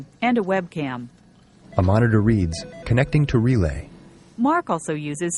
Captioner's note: phone ringing